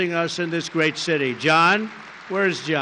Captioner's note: applause